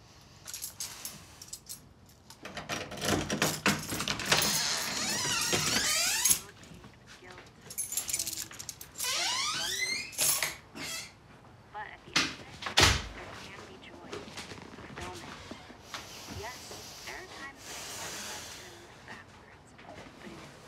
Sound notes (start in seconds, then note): 0.4 keys clink; 2.3 lock rattles; 4.5 door creaks; 8.8 door creaks